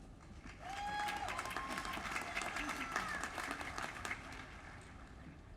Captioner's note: applause